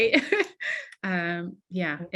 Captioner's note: laughing